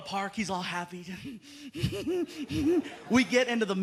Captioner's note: laughs